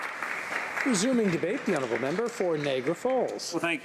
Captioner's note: applause